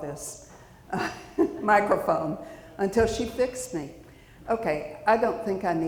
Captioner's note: chuckles